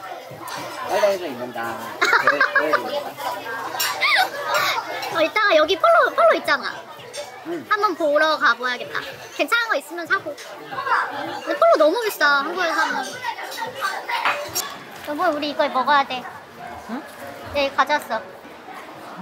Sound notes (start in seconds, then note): 2.2 laughs